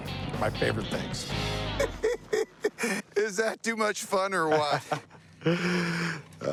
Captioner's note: laughs